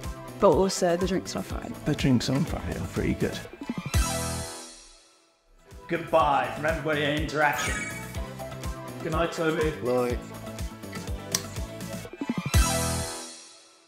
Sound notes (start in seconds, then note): 7.4 graphics chiming; 11.1 upbeat music